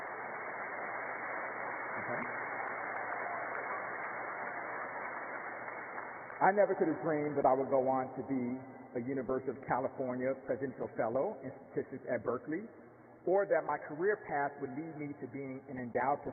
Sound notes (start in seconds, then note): 6.0 applause